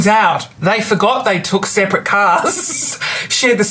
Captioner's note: laughs